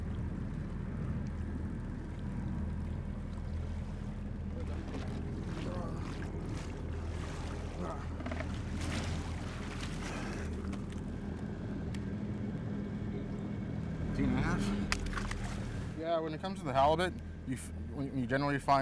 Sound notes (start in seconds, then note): 3.4 boat engine idling; 12.2 fish splashing; 16.5 fish splashing